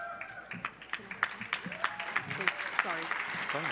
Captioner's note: applause